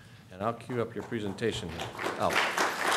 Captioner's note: applause